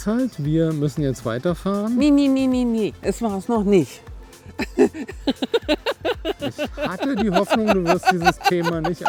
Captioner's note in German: gelächter